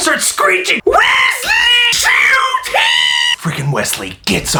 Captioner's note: screeching